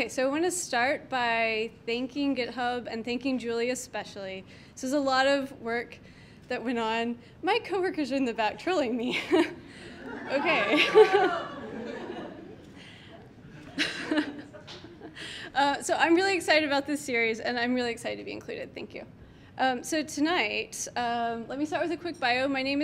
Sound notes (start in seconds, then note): 9.8 laughs; 10.0 everyone laughs; 13.1 laughs